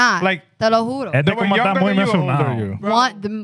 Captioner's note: speaking Foreign Language